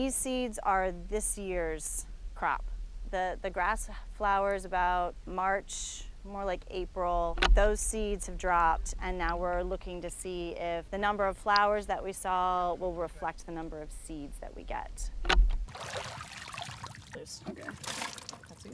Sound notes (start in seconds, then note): 15.6 water splashing